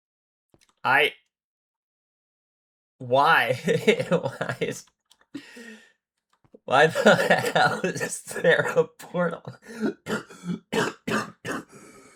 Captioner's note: laughter